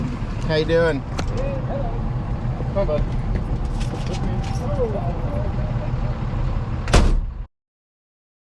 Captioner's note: door shuts